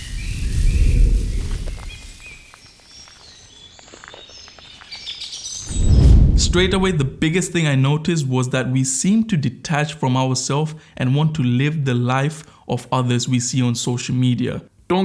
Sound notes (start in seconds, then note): 0.0 foliage crunching underfoot; 0.3 air whooshing; 5.4 birds chirping; 5.6 air whooshing